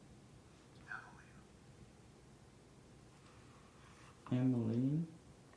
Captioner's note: faint male voice speaking